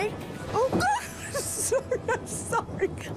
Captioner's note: laughs